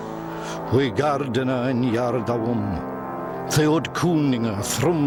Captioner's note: man speaking Old English